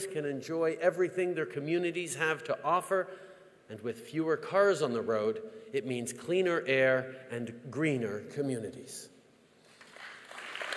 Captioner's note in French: Applaudissements